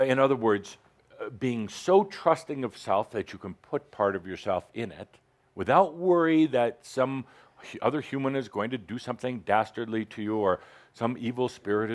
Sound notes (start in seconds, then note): none